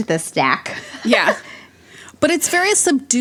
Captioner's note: laughs